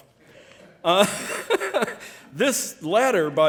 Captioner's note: laughing